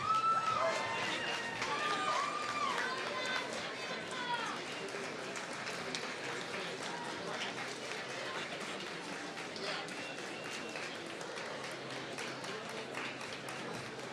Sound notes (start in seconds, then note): 1.1 applause